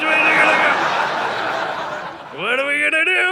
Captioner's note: audience laughing